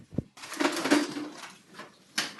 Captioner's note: crash